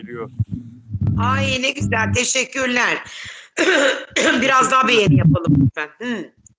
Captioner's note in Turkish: boğazını temizler